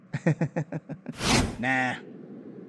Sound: giggles; swoosh

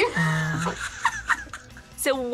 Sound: both laugh

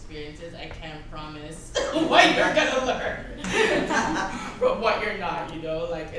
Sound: everyone laughs; bursts out laughing

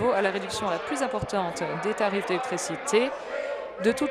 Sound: applause

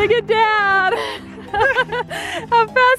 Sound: laughing

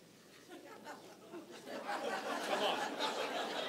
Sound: congregation laughing

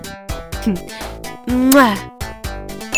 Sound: kiss

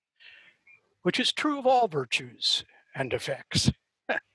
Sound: chuckles

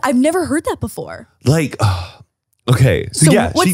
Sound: sighs

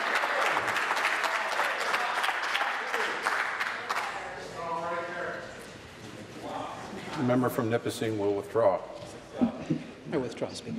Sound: applause

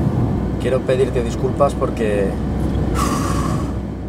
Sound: sighing

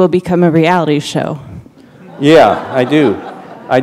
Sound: laughter

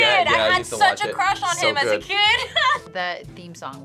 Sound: laughs

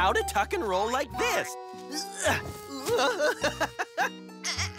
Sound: giggling; tuck and roll effort; giggling; tuck and roll effort

